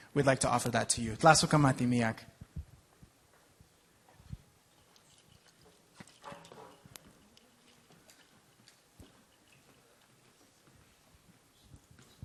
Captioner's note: speaking in native language